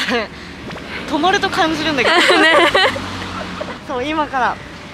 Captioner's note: laughs